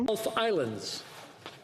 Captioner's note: speaking French